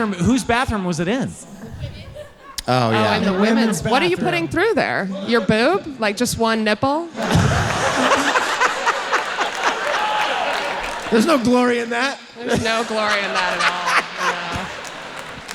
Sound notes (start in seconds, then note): 7.0 audience laughing